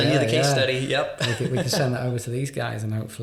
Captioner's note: laughing